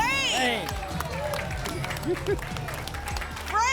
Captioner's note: applause